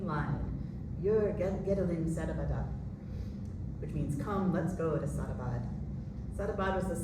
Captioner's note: non-english